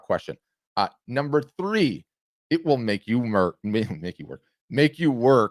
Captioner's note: chuckles